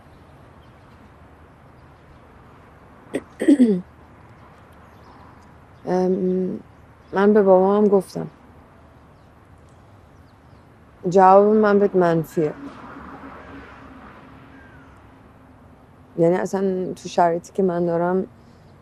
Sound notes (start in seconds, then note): 3.2 clearing throat